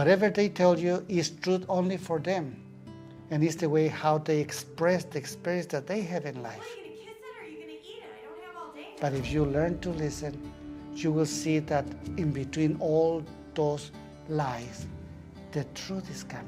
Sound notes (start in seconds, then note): 6.7 background talking of woman filming